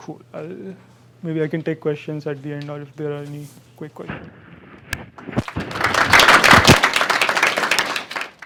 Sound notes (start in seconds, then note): 5.4 applause